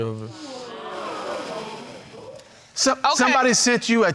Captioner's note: audience gasping